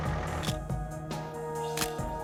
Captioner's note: camera shutter click